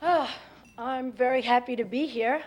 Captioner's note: sighs; on microphone